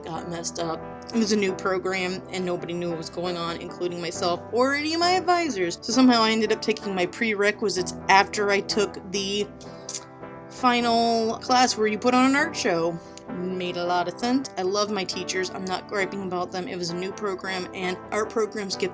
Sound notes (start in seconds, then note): 14.4 sarcasm